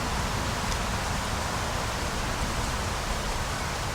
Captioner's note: wind Blowing